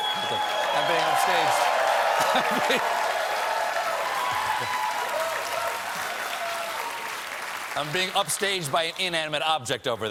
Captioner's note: applause; laughter